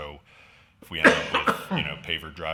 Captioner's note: man coughs